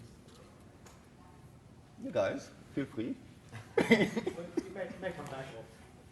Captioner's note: laughing